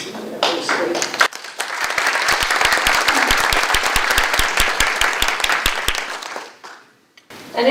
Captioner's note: applause